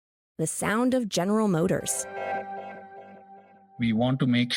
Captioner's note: transition Sound